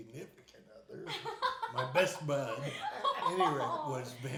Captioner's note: laughing